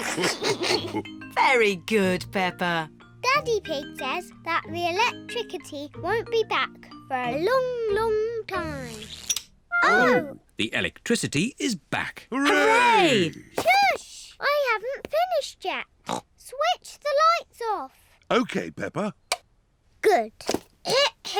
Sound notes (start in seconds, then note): 0.0 all laugh; 16.0 snorts